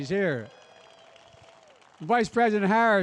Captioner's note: applause